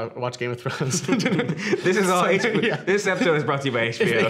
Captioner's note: laughing